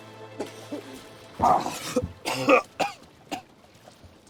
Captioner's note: coughing